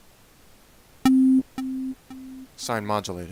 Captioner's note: echoes